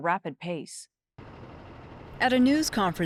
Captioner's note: plane roaring